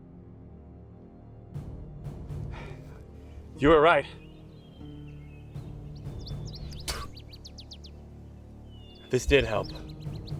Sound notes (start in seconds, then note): 6.8 Coleman spits